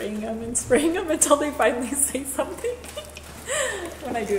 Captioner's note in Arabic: يضحك